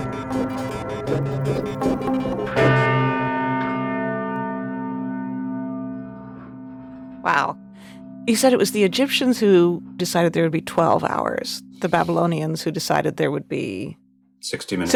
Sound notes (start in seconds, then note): 0.0 electronic music intensifies; 2.7 bell ringing intensifies